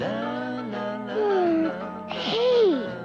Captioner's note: Oblio yawns